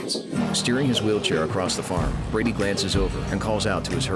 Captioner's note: goats bleating